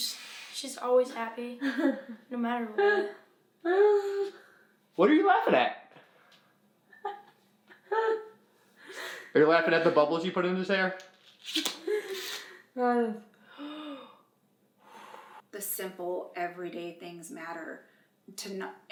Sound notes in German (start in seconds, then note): 3.9 kichert